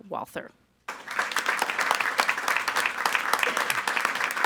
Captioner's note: all applauding